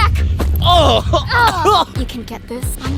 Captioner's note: grunting